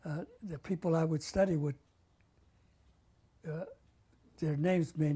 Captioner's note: pauses for 3 seconds